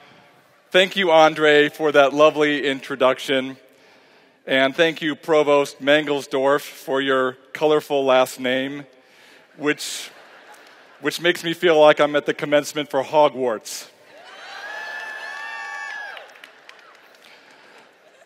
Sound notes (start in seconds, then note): 14.1 cheering